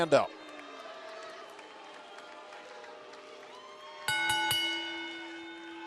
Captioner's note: crowd chatter; bell ringing